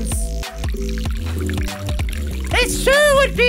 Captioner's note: water pouring noise